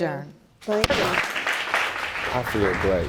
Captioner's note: audience applauding